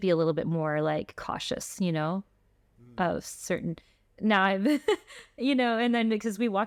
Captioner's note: laughter